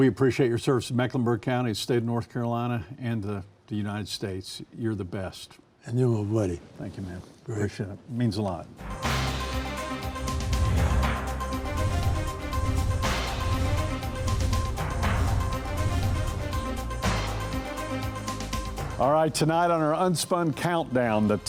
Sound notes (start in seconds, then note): 8.9 melodramatic music; 8.9 air whooshes; 16.9 melodramatic music continues